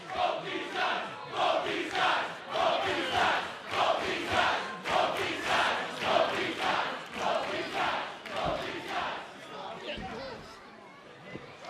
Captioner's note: fans chanting